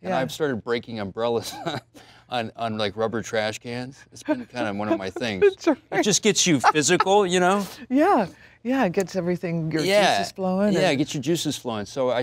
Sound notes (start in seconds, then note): 4.2 Allison laughs